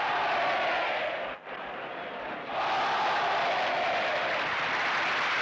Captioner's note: cheers and applause